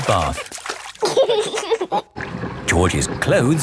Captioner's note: giggling